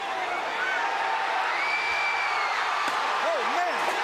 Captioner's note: crowd cheering